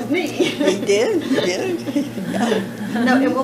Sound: laughter

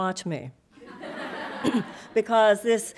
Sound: audience laughing

